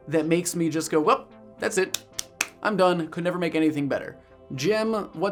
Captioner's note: claps hands